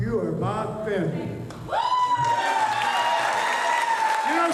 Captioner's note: cheers, applause